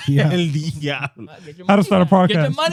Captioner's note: laughing